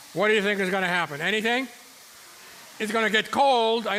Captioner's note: audience murmuring